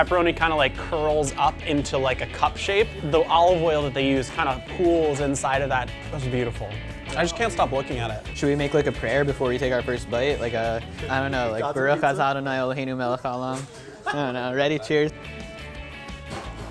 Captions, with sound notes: the pepperoni kinda curls up into a cup shape. The olive oil that they use kinda pools inside of that. That's beautiful. I just can't stop looking at it. - Should we make a prayer before we take our first bite? I don't know, like (foreign language). - God's pizza? - I don't know. Ready? Cheers.